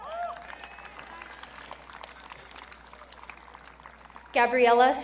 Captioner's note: audience cheering